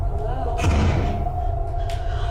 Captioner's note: door slams shut; Kat breathes heavily